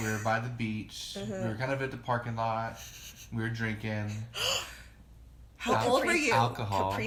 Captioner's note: gasp